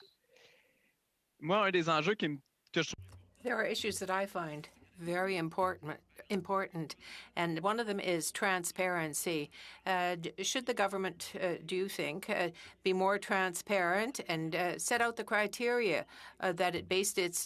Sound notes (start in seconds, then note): 7.7 speaking French